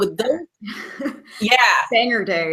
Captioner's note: laughing